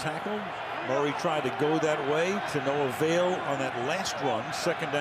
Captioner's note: crowd cheering